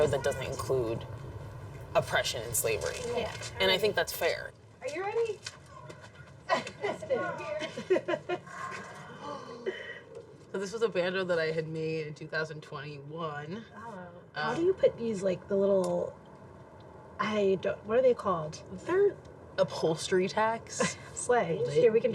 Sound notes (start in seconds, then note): 8.0 laughs; 8.9 gasps